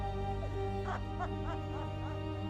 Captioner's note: sobs